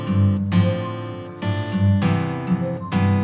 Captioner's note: call sound; message sound